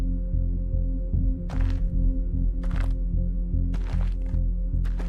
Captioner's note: footsteps crunching